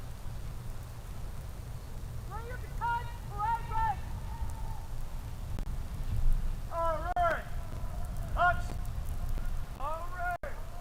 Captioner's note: shouted commands